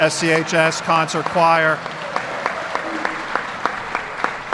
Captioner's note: applause